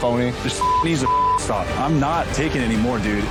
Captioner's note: beep